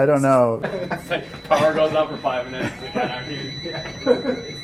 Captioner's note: alarm is still going off in the background